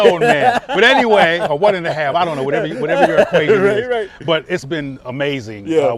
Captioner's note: laughter